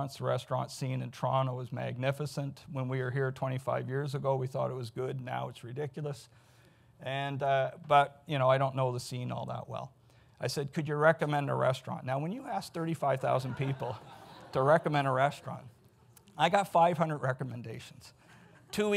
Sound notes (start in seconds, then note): 13.4 audience laughs